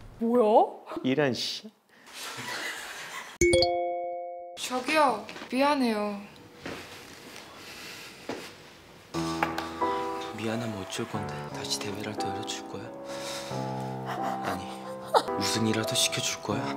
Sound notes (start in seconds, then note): 7.1 creaking while turning